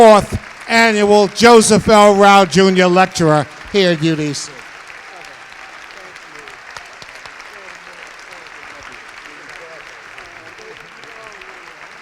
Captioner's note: applause